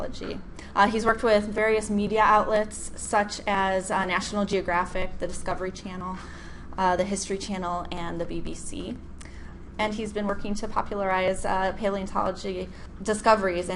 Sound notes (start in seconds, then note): none